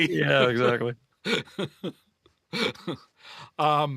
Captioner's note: laughs